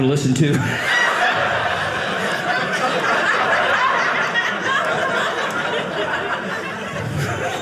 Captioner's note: audience laughing